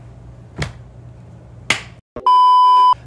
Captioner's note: clapping thighs